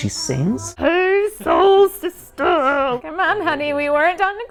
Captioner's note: deep silly voice